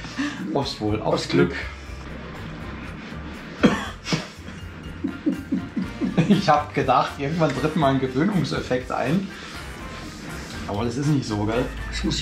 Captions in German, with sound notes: - Aufs Wohl - Aufs Glück [Husten] Ich habe gedacht irgendwann tritt mal ein Gewöhnungseffekt ein aber das ist nicht so geil